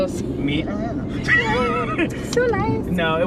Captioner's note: both laugh